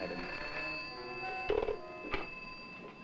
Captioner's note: phone ringing